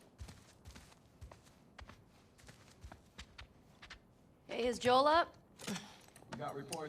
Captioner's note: footsteps